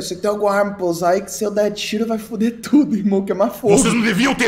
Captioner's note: laughs